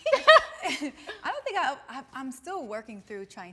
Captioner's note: laughing amusingly